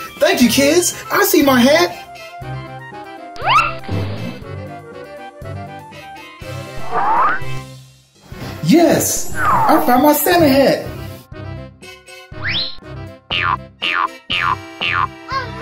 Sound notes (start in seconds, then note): 3.4 various cartoon sound effects; 12.4 various cartoon sound effects